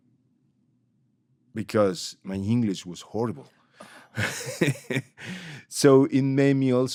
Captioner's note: laughs